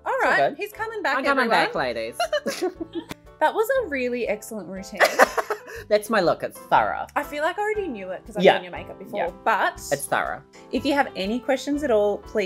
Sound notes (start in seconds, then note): 2.2 both laughing; 5.0 laughing